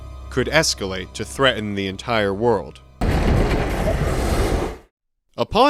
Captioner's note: boom!